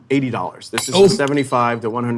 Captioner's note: glass shattering